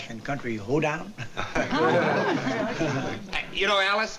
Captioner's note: laughter